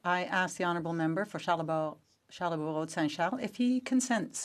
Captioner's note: speaking in French